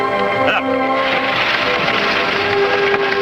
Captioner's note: pleasant orchestral music; wagon clattering; Jeff chuckles